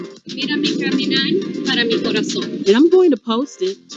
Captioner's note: speaks foreign